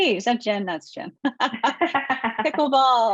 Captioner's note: laughing